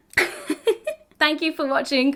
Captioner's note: woman laughs